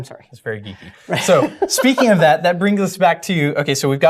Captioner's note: laugh